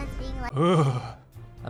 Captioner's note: shudders